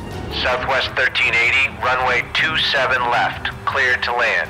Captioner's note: man Over Radio